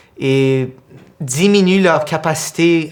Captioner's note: none